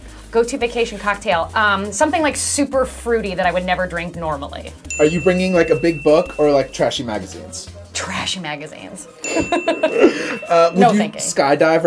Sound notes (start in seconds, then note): 4.8 ding; 9.2 ding; 9.3 laughter